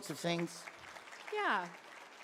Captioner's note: audience clapping